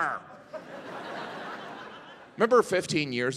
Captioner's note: audience laughing